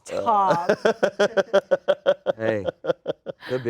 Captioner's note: laughs